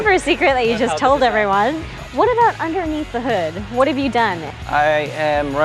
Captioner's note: laughs